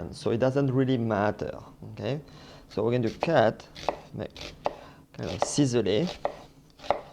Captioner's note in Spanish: sonido cortando